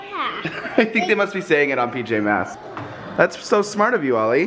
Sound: laughs

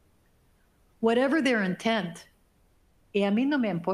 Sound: speaking foreign language

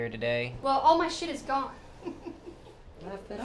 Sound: laughter

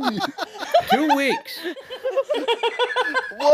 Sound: laughing

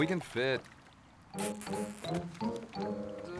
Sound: kissing

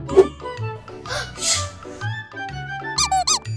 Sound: gasps; more squeaking noises

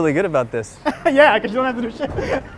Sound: laughs

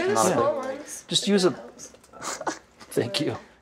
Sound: laughs

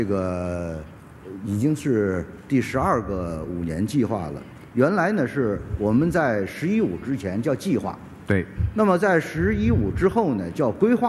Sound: speaking in Chinese

